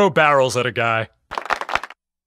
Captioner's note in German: Publikum applaudiert wieder